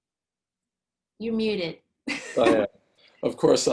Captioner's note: laughs